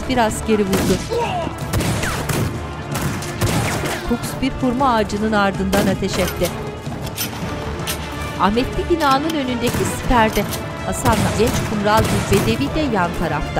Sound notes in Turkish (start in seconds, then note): 0.7 Müzik - Gerilim; 1.5 Silah sesleri; 13.0 Silah sesleri